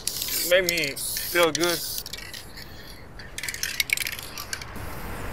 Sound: paint can spraying

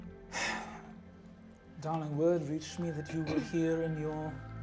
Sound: sighs

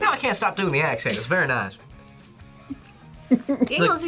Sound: chuckles

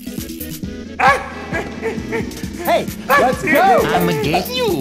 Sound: boopkins noises and runs away from hook

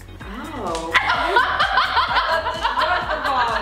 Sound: laughing

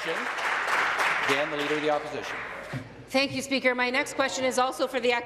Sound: applause

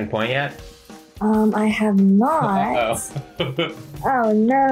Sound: laughs

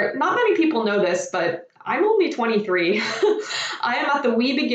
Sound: laughs

